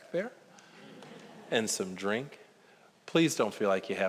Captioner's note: audience chuckling